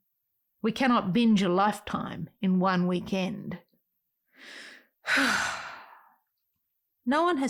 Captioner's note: sigh